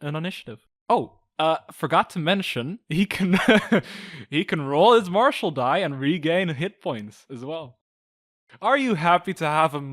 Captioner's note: laughs